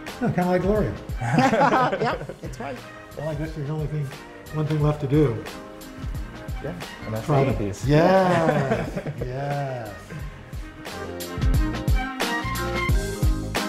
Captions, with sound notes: - Kind of like Gloria. (laughter) - Yep! That's right. - One thing left to do. - Gonna eat these. - Yes! (upbeat jazzy music)